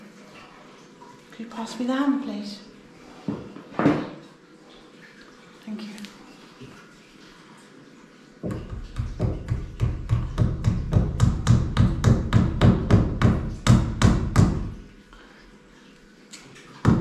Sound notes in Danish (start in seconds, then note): 8.4 hammerlyde; 16.8 hammerlyde